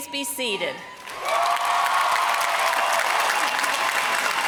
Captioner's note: applause